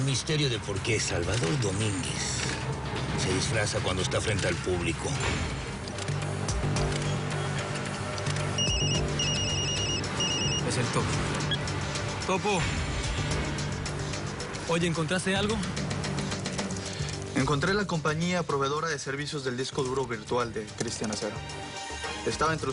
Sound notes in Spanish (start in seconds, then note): 8.1 Clic; 8.5 Suena un celular; 11.4 Bip